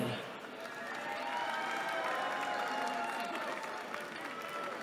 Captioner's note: cheering